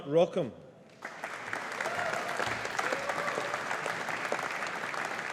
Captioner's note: audience applauding